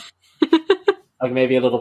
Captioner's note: laughs